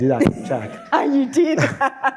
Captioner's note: laughs